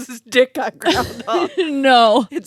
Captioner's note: laughs